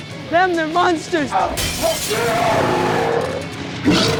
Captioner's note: growls; glass shatters